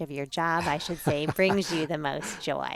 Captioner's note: laughs